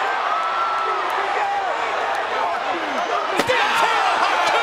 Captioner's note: audience shouting